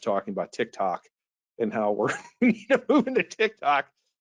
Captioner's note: laughs